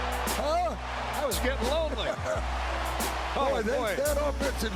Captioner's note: chuckling